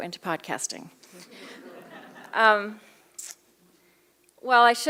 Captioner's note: laughter